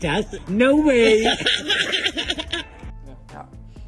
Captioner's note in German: Lachen